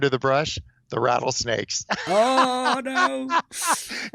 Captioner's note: laughs